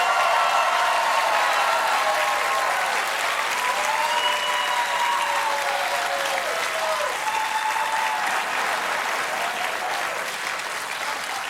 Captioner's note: cheers and applause